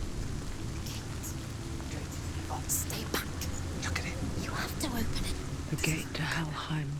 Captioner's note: whispering